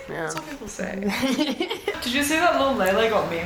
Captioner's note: laughing